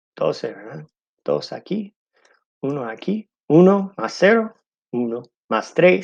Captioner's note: speaking in foreign language